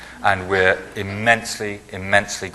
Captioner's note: laughing